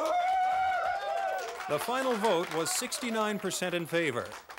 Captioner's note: cheering and clapping